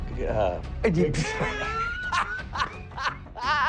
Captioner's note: laughs